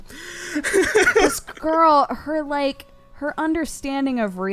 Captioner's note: cry; laughs